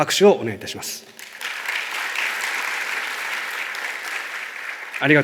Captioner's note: clapping sound